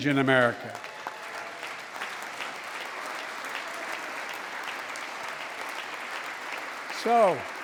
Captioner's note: applause